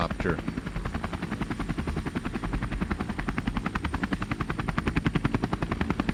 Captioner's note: helicopter blades whirring